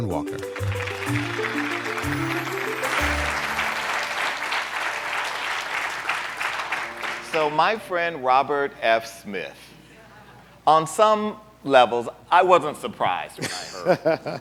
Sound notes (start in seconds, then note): 2.8 audience clapping; 13.4 laughter